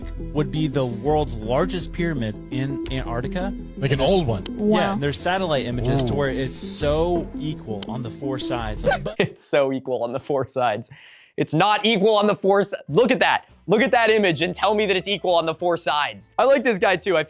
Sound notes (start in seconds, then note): 8.8 laughs